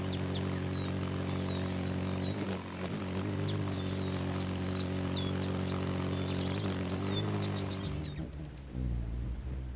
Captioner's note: humming noise